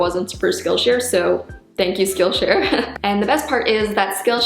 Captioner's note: laughs